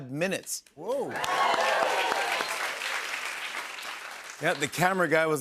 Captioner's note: cheers and applause